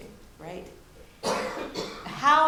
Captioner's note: audience member coughs